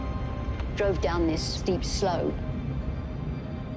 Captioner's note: in English; gloomy music